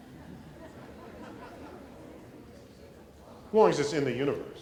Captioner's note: laughter